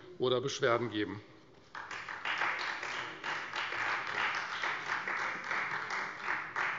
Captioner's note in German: Beifall Freie Demokraten